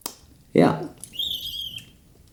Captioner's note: raptor noises